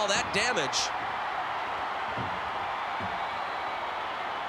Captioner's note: crowd cheering